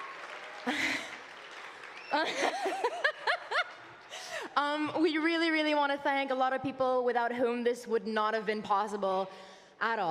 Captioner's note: applause